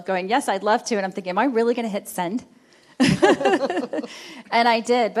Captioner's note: chuckles